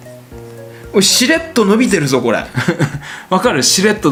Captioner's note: laughs